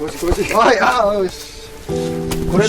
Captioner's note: laugh